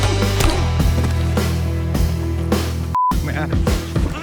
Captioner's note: Dalton grunting; punches thudding; body thuds; beep